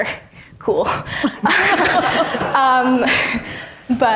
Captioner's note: all laughing